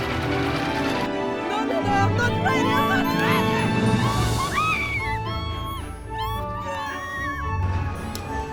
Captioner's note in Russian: крик